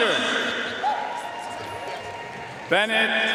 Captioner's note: audience cheering and applauding